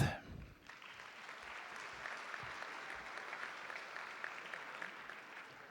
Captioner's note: audience applauding